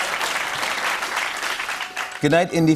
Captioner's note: laughter and applause; applause continues